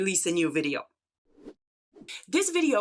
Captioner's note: slide whooshes